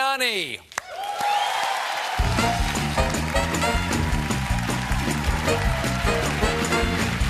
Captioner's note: applause